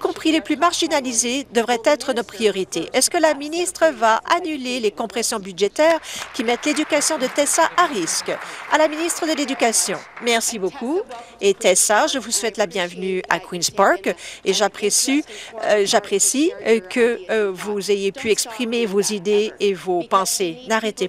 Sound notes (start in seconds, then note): 8.9 applause